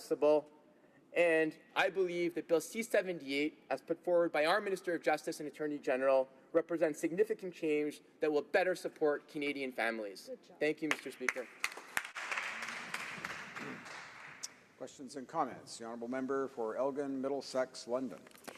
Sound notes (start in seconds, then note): 15.0 some Applause